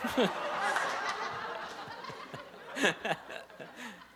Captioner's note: laughter